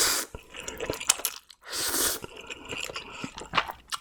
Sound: slurp slurp

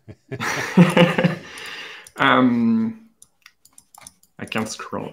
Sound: laughter; laughs

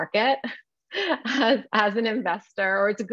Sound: chuckles

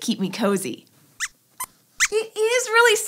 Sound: squeaks squeaks

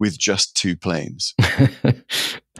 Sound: laughing

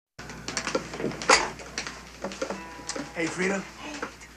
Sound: drumsticks smacking

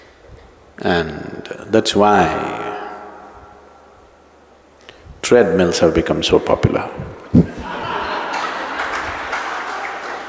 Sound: all laugh; 全部笑

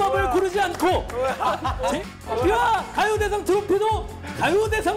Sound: laughing

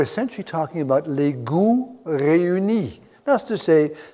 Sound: speaking in a foreign language

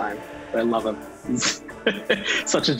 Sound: laughter

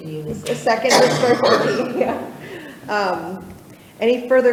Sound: chuckles

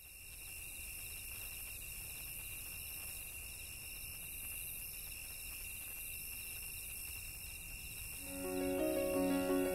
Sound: crickets chirping

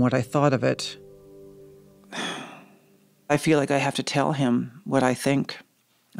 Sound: sighs

